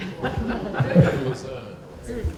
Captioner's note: laughter